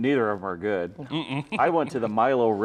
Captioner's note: chuckles